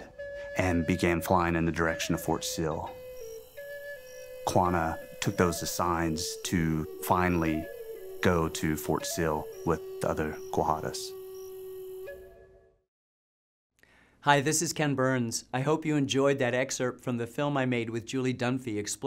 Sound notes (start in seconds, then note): none